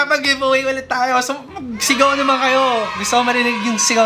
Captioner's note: screams